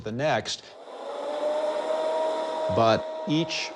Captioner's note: recording howling